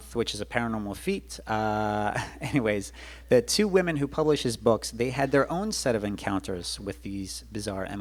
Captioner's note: laughs